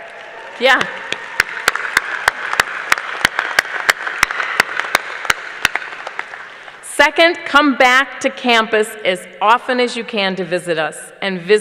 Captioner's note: cheers and applause